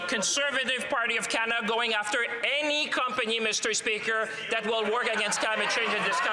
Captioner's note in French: voix de l'interprète